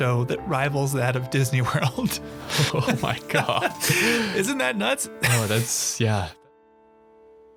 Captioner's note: laughing